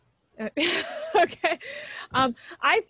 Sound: laughs

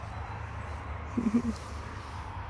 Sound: chuckles

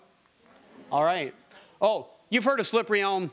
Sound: audience murmuring

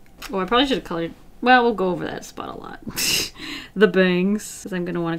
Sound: laughs

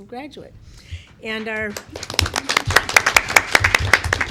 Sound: clapping

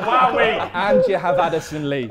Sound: Sidemen laughing

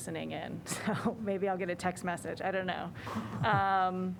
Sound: laughter

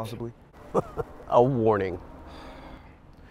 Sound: laughs

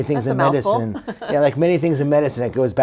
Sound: chuckles

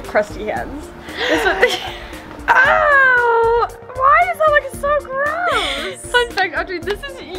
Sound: gasps

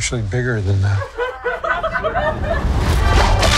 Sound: laughing

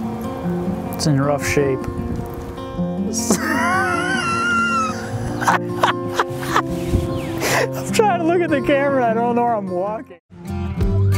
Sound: laughs

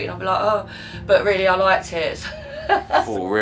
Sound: laughter

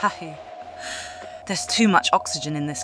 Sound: heavy breathing

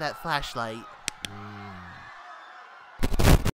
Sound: distant panicked screaming

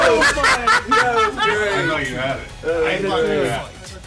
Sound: laugh

